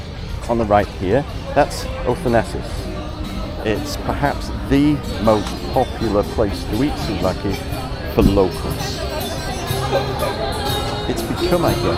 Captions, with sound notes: (people chattering) Then the second one on the right here, that's O Thanasis. It's perhaps the most popular place to